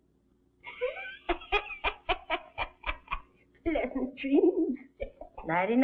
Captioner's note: chuckling